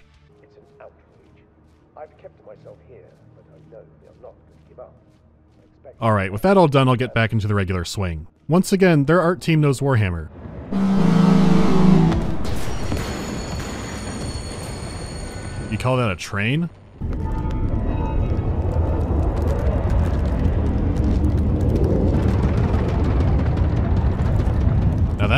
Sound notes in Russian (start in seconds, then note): 0.2 приглушённый разговор; 10.7 гудок поезда; 17.0 глубокий гул